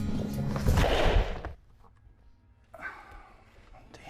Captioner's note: objects clattering; Clint sighing